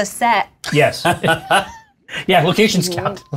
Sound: laughs

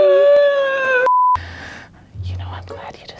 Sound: beep

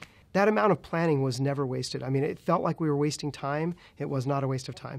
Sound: none

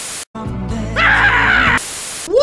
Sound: screaming

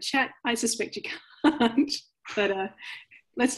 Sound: chuckles

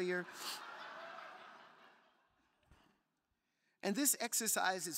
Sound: crowd laughing

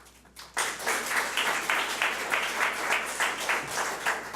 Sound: audience applauds

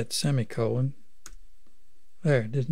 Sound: click

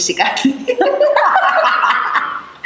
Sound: laughs

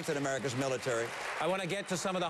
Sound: applause

